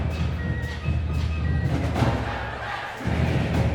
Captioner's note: chanting